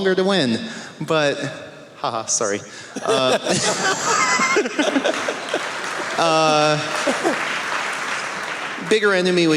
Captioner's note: laughter